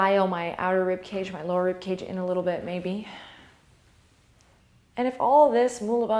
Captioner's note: exhale